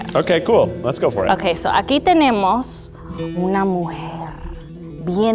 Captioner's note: speaking Spanish